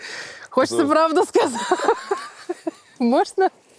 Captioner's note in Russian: смеясь